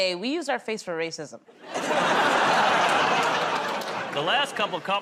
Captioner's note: laughter